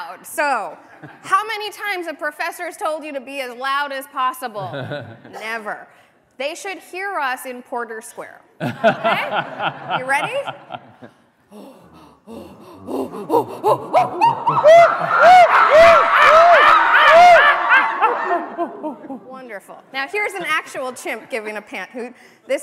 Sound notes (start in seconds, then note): 11.1 chimp noises